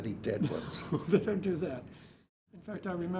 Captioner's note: laughs